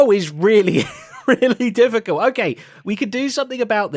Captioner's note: laughs